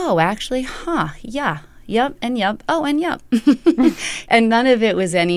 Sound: laughter

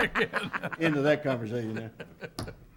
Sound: all laughs

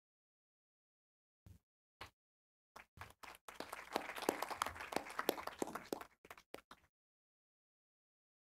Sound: applause

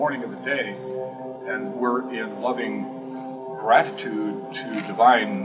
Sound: inhale

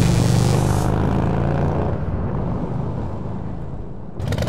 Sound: motorcycle engine

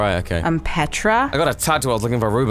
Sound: your voice changed o_o

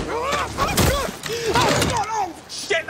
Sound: crash

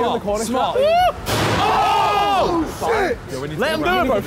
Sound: all cheering

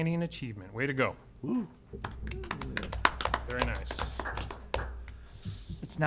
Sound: applause

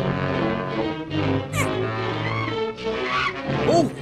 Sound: chuckles; softly imitates bat; bat shrieks

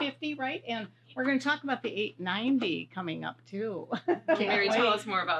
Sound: laughs

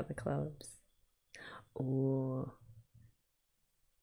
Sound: gasps

